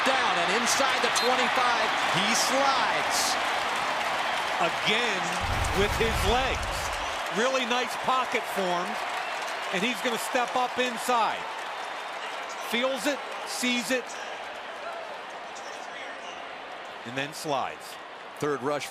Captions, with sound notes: Got to pick up the first down. And inside the 25, he slides. [cheering] Again, with his legs. Really nice pocket form. And he's going to step up inside. Feels it, sees it, and then slides.